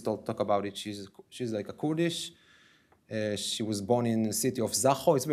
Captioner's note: ? Kurdish. ?